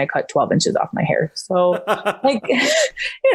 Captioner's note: laughs